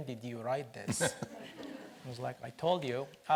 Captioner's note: laughs